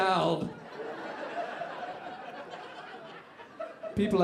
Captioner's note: audience laughing